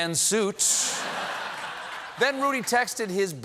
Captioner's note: laughter